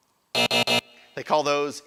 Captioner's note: buzzer